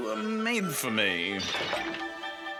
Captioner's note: clattering